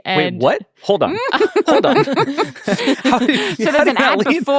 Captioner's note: laughing